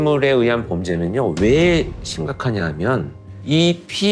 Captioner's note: heavy sound effect